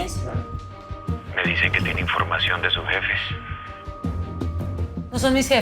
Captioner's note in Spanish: Por altavoz